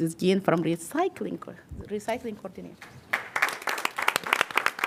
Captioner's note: applause